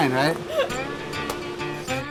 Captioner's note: laughs